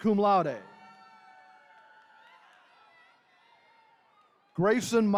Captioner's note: attendees cheering